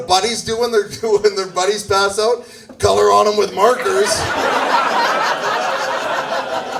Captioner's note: laughs